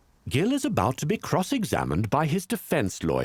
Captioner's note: voiceover